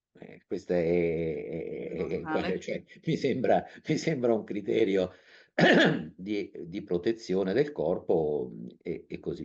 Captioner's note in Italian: schiarire la voce